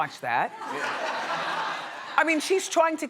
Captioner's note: audience laughing